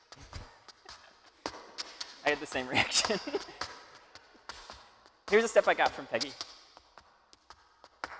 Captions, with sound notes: I had the same reaction. (laughing) Here's a step I got from Peggy.